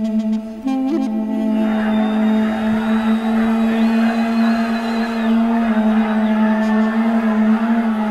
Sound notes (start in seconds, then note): 1.2 sounds of crowds; 2.5 slow music continues